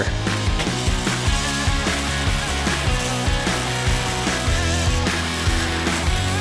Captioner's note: upbeat music; crackling